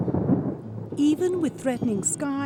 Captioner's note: thunder